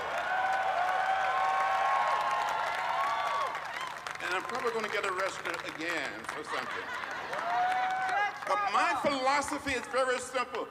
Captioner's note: applause